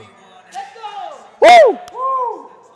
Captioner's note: woooo